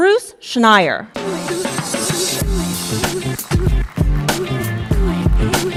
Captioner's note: applause